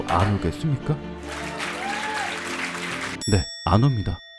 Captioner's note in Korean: 환호